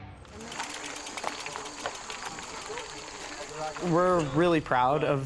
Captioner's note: upbeat music; crunching gravel